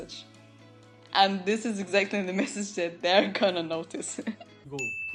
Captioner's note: laugh